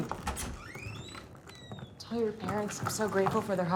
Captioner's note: door creaking